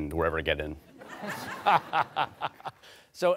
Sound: laughter

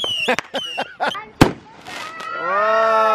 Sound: laughs

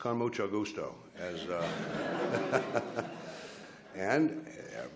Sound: laughs

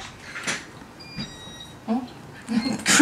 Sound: door opening sound?

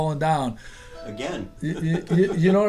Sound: voiceover

